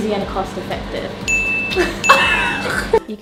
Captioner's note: loud chime; laughs